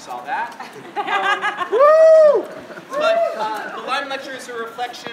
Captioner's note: audience cheering